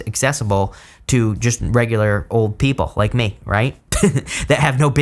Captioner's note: giggles